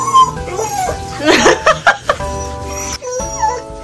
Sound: laughing

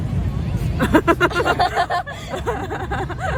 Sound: laughs

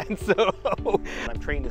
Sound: man laughs

